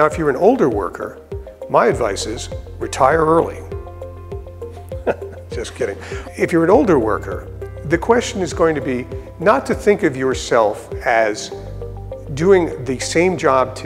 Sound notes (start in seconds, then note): 4.9 laugh